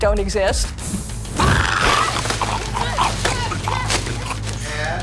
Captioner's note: growls, yells